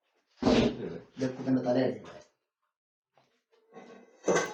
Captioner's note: playfully